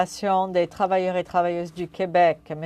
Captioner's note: speaking French